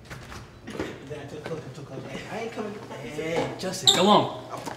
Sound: students chattering

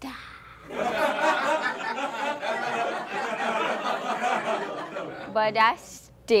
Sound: laughter

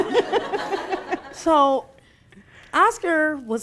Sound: laughing

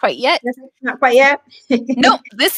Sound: chuckles

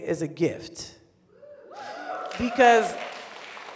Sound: scattered applause

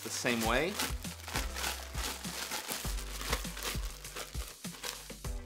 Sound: unwrapping bag

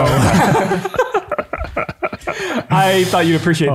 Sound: chuckles

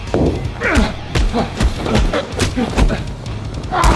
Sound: hammer hitting suit; Josh screaming

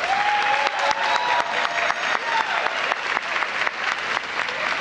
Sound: applause

